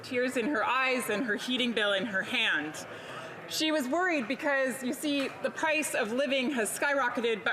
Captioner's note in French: voix de l'interprète